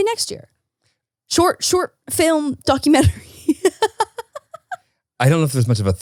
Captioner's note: laughing